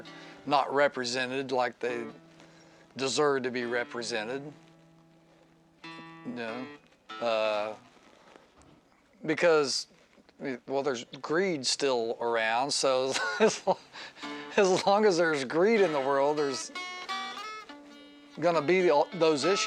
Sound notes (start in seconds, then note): 13.1 laughs